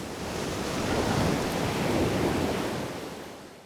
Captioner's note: waves crashing